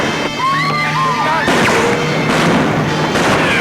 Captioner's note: women scream; guns bang